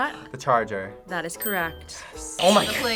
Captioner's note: whispers